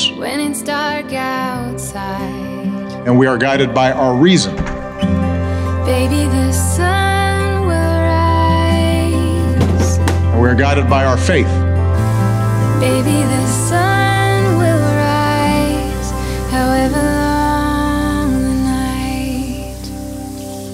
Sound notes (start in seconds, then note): 4.4 door closes; 9.5 lunch box clatters; 12.0 sink turns on; 19.6 water runs